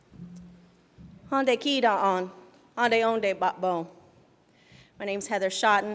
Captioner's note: speaking in foreign language